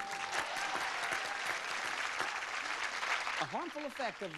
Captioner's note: crowd applauds